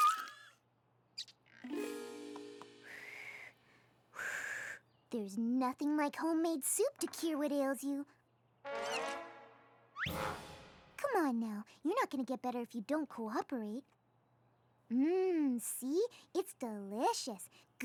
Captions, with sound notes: [ BLOWS ] THERE'S NOTHING LIKE HOMEMADE SOUP TO CURE WHAT AILS YOU. COME ON, NOW. YOU'RE NOT GONNA GET BETTER IF YOU DON'T COOPERATE. MMM. SEE? IT'S DELICIOUS.